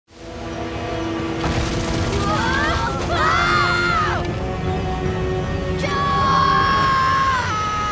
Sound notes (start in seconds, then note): 2.2 screaming